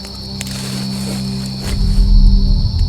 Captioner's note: footstep